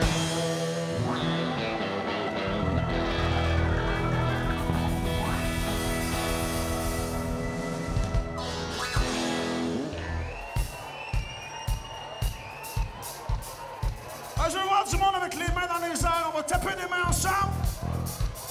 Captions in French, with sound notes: (cris d'enthousiasme) Je veux voir du monde avec les mains dans les airs! On va taper des mains ensemble.